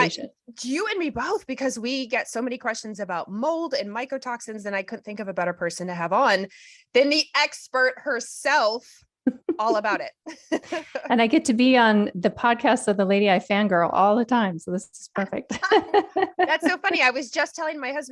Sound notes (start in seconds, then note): 10.2 laughter